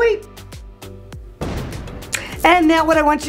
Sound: explosion booms

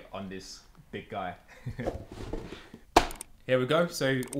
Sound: laughing

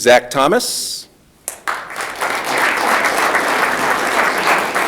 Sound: audience clapping

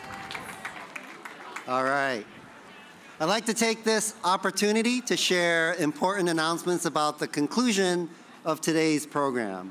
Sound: cheers and applause

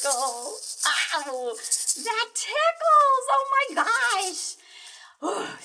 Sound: excited

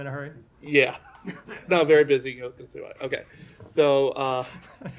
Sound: laughter

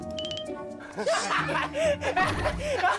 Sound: it's laughter

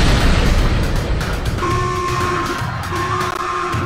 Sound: explosion; alert

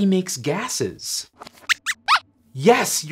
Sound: squeaks

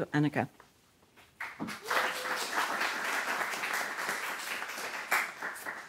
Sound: audience applauding

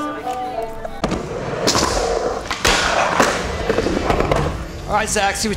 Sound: skateboard grinding

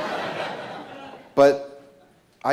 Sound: laughter

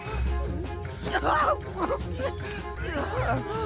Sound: exclaiming continues

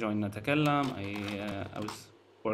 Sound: slide projector clicks

